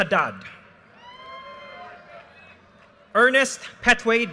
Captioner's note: audience cheers and applause